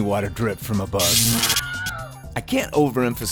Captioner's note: electrical shock sound